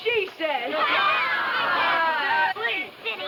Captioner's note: children laughing